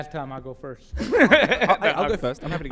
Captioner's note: laughs